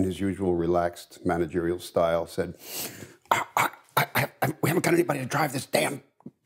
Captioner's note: stammer